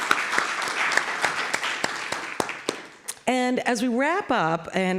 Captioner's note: applause